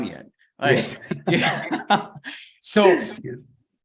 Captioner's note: both laughing